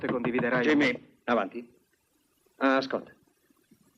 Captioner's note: knocking